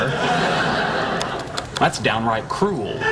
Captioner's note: laughing